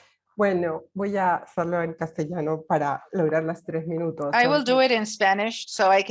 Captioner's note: speaking Spanish